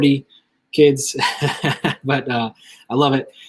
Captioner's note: laughs